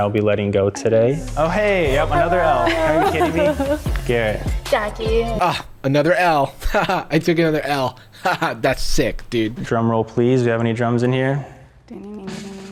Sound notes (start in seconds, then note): 5.4 chuckles